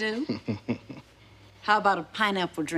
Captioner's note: chuckles